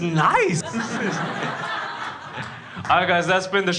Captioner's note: crowd laughs